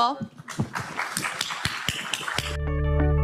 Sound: crowd applauding; upbeat ambient music

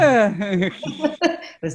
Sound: laughs

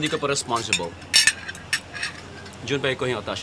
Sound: utensils clanking

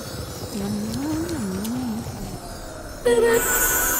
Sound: chews and hums

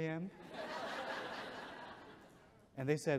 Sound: audience chuckles

